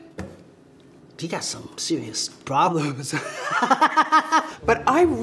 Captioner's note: laughing